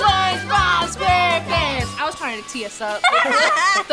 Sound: laughing

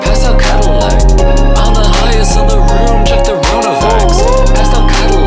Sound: woo-oo-ooh

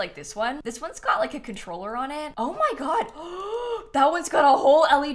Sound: gasps

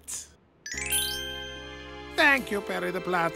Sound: Perry's smile generates a glockenspiel noise. Ding!

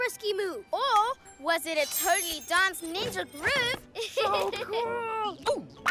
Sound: chuckles

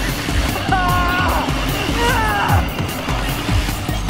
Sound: screams of pain

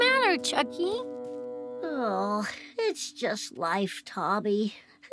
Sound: groaning

